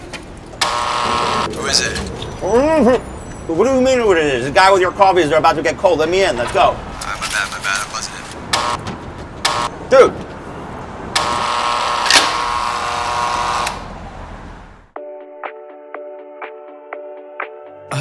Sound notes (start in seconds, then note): 0.6 doorbell buzzes; 8.6 doorbell buzzes; 11.2 doorbell buzzes; 15.0 upbeat music